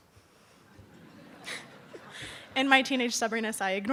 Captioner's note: laughing